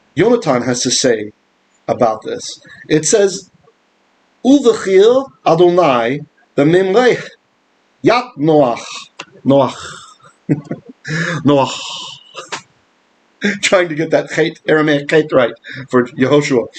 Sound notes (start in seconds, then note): 9.4 Aramaic; 13.6 laughing